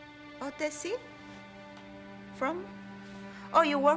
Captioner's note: non-english